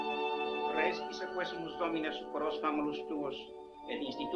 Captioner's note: speaks Latin